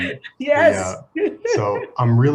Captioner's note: laughs